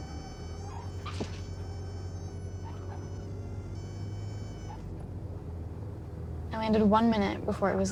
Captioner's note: tires thump down, squeak